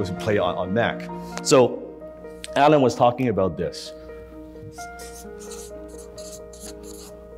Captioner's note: marker writing